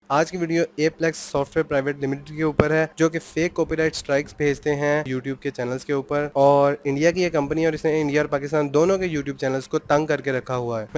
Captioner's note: hindi / urdu